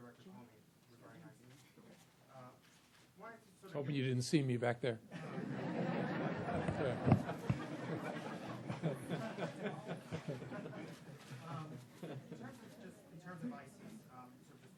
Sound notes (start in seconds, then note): 5.1 laughter